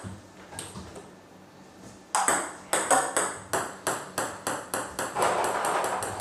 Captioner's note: balls ping pong hitting continues